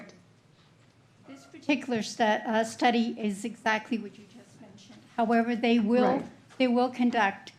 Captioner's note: clears throat